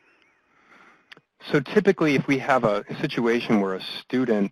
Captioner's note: voiceover